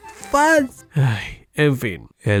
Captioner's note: sigh